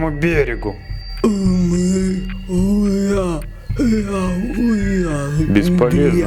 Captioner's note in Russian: Черепаха мычит